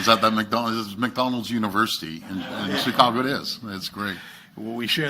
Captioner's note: laughs